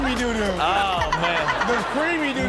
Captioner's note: audience laughs